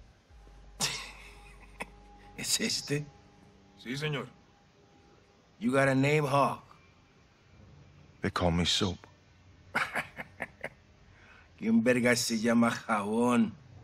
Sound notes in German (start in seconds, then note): 9.7 lacht